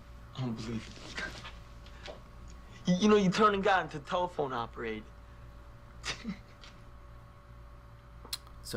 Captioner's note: laughs